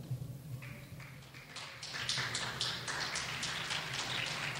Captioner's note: clapping